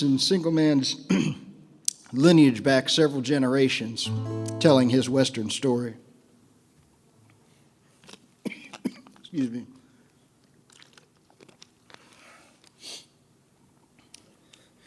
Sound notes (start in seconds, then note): 8.4 coughs